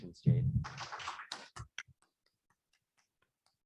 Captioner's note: applauding